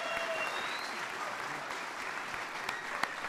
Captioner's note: applause